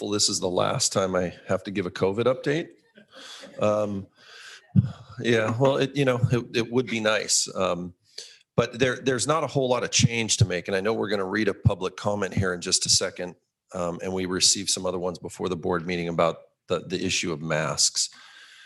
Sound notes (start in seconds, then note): 3.0 all laughing